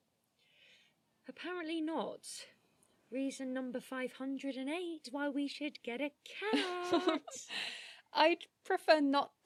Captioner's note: sing-song; laughing